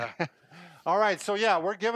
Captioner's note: laughing